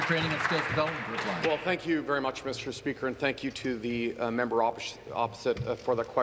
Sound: applause

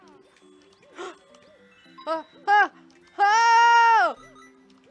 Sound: gasp

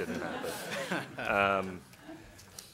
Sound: laughing

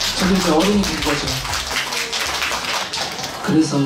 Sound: A round of applause for a self-proclaimed adult

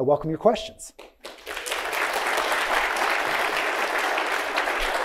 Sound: audience applauding

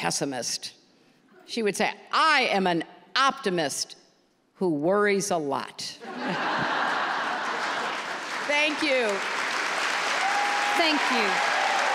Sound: applause

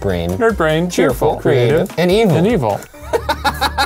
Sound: laughing

